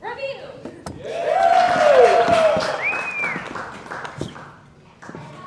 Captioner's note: applause